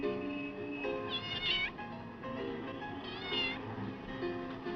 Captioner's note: meowing